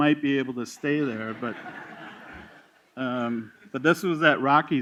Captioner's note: laughter